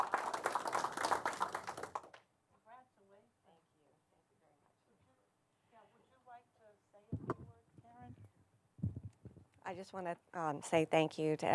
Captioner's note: applause